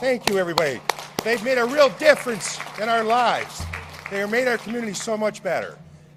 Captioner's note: applause